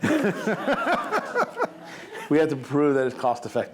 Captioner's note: laughing